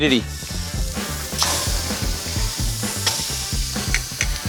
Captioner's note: steak sizzling